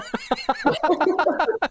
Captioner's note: laughter